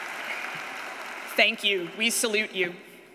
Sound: lead applause

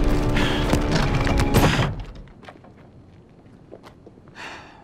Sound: coffin thuds

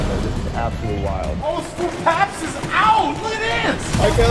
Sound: murmurs

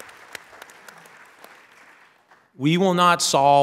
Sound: applause

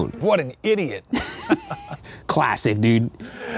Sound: both laughing

